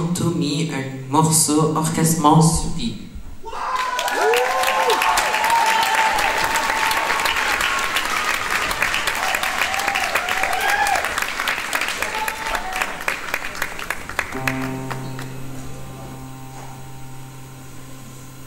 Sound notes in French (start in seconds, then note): 3.8 Applaudissement